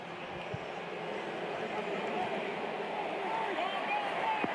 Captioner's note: pa announcement